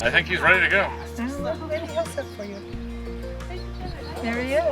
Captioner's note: indistinct chatter